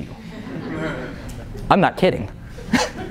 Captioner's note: laughter